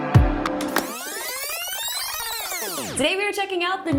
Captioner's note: video tape whirring